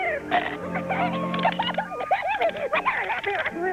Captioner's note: Rubik laughing